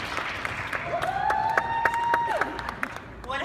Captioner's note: applause